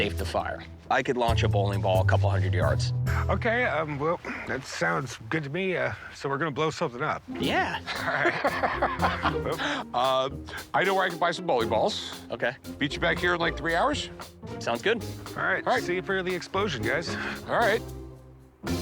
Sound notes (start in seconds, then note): 7.4 laughs